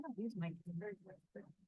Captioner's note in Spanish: hablar en voz baja